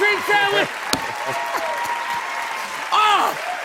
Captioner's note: cheers and applause